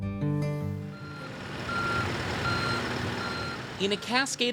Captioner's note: machinery beeping